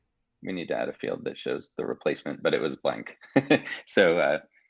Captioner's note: chuckling